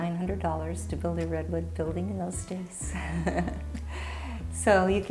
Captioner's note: laughs